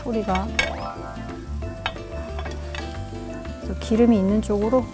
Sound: round hotteok dough is sizzling

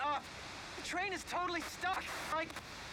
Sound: static

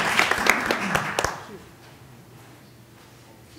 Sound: applause

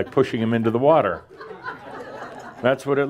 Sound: laughter

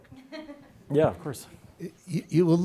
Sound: laughing

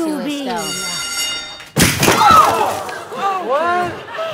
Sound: crash

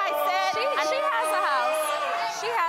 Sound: audience jeering

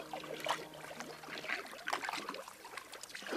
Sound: paddling sounds

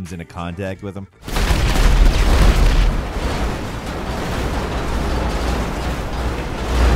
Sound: train crashes; trucks explode

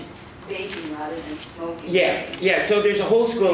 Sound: faintly speaking

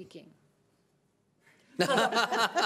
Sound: laughing

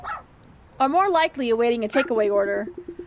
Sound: dog barking

